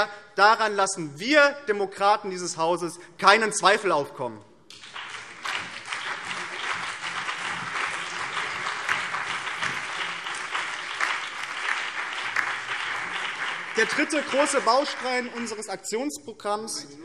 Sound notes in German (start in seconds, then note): 4.7 Beifall BÜNDNIS 90/DIE GRÜNEN, CDU, vereinzelt SPD und DIE LINKE